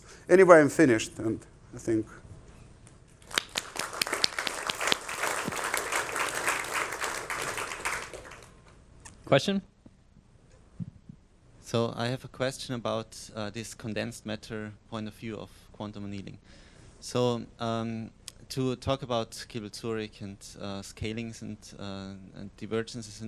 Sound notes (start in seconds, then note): 3.2 applause